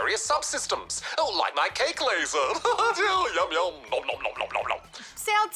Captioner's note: laughs